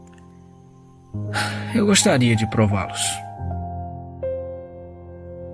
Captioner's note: sigh